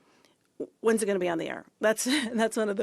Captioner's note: chuckles